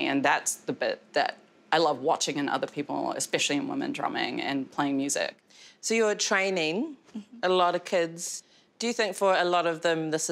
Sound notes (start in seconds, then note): none